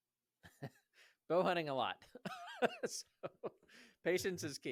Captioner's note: laughs